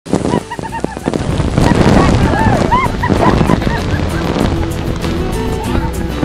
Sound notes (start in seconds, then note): 0.1 happy music; 0.2 spectators laughing